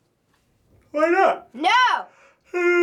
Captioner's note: FBE yawning